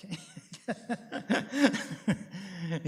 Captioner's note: laughs